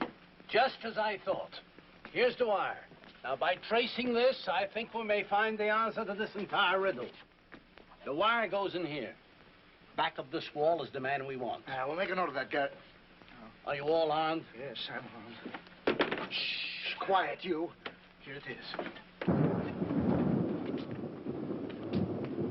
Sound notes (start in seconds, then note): 15.7 clattering; 19.2 thunder